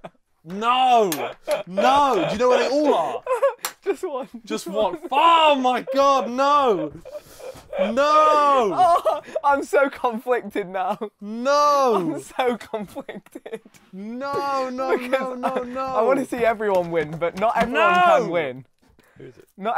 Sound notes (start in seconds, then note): 1.0 continues laughing; 8.0 laughing hysterically